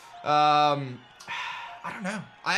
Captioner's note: sighs